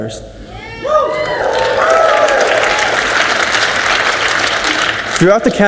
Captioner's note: audience cheers and applauds